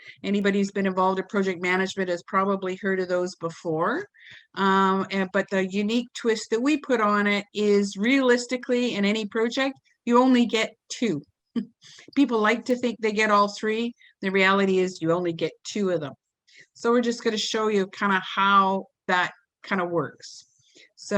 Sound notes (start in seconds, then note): 11.4 chuckles